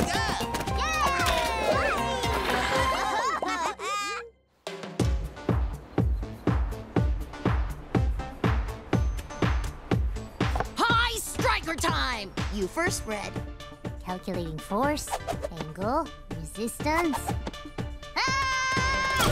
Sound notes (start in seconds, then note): 2.2 laughing; 4.2 upbeat music